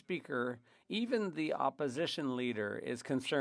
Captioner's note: speaking French